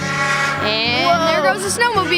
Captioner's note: snowmobile engine revving